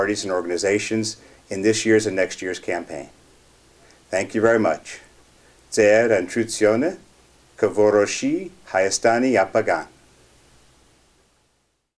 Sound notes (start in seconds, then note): 5.4 armenian